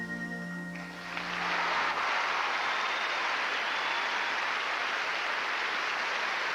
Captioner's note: applause